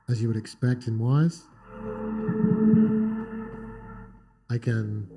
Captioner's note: electronic tones